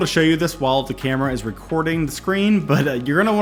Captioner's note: laughing